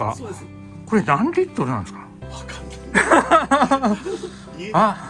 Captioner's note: laughs